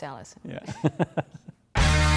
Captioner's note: laughing; upbeat music